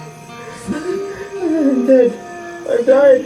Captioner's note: cries